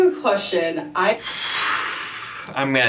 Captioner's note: exhales in disbelief